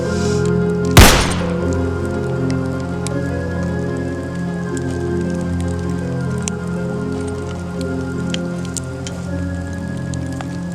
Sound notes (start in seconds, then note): 1.0 gun Shot